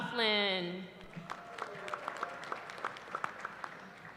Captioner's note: applause